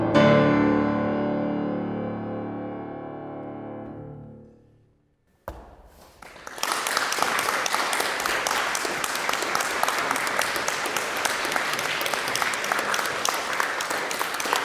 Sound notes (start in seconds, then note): 6.0 audience applauding